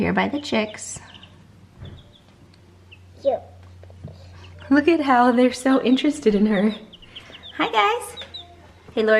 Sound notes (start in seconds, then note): 7.0 chirping